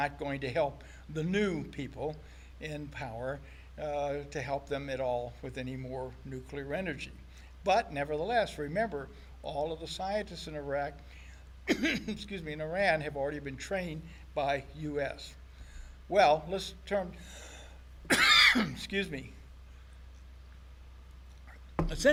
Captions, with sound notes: going to help the new people in power to help them at all with any more nuclear energy. But nevertheless, remember all of the scientists in Iraq, excuse me, in Iran have already been trained by US. Well, let's turn, (coughs) excuse me.